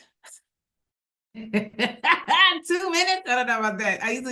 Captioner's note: laughs